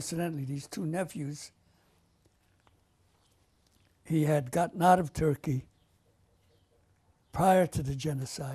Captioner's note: pauses for 3 seconds